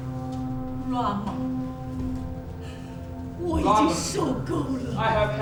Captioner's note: speaking in a foreign language